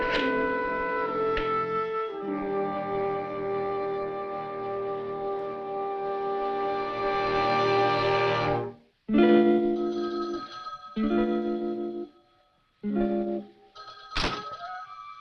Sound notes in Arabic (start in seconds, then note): 8.0 يرن الهاتف